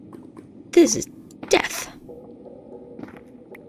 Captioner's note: gasp